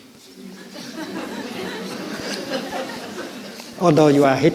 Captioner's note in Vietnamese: tiếng cười